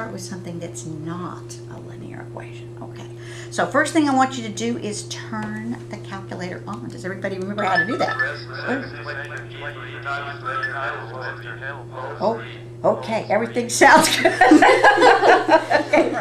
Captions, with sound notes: with something that's not a linear equation, OK? So, first thing, I want you to do is turn the calculator on. Does everybody remember how to do that? [ Calculators turning on ] OK, everything sounds good. [ Laughter ]